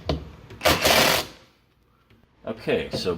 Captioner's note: drill clicking